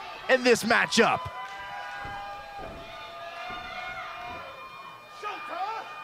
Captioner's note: crowd cheering